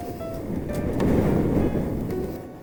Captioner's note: strong sea breeze